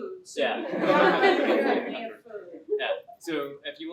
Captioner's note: laughter